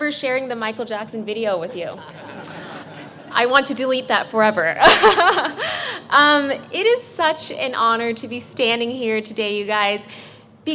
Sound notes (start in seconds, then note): 4.9 laughs